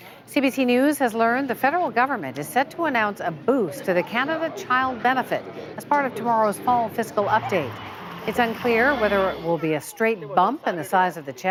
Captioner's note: cheering